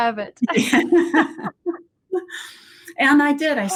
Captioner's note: laughter